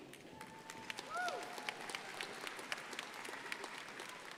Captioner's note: crowd applauding